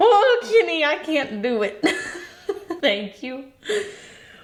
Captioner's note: laughs